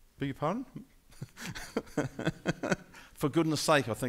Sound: laughing

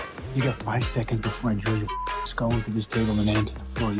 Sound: beep

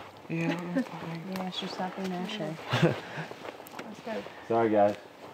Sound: Ravi laughing

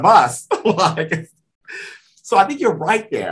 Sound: laughs

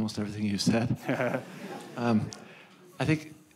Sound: audience laughing

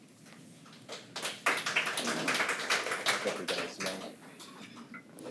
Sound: attendees applaud

